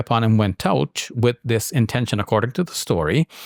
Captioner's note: speaks in Arabic